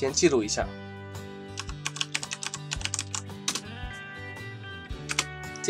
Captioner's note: typing Sound